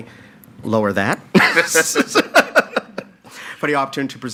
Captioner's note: laughs